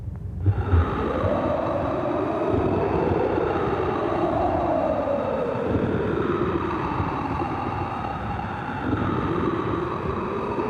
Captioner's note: wind Sounds